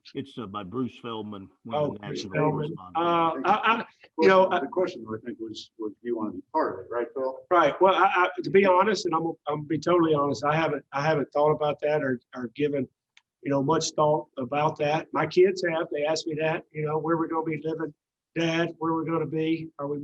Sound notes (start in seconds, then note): 3.3 people mumbling